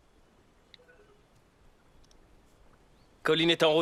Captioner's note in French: sonnerie de téléphone